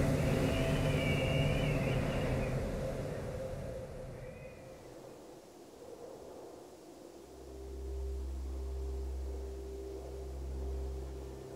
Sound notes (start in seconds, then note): 2.7 wind sounds from the mountain top